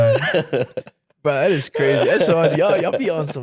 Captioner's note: laughing